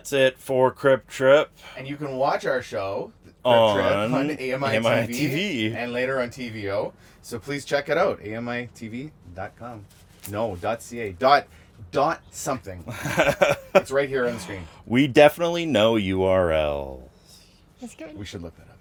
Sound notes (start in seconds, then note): 12.9 laughs